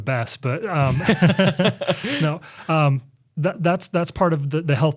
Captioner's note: laughs